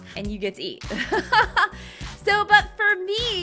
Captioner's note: laughing